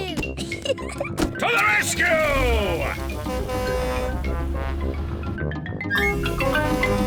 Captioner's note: horn blares